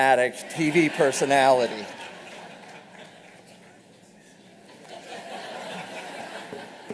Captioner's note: laughter